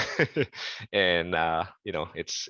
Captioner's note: laughter